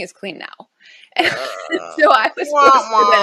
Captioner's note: chuckles; groans